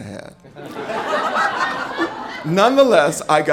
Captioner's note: audience laughing